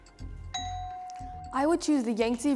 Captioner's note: bell dings